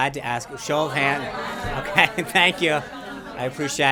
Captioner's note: laughter